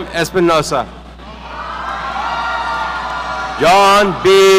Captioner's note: audience cheering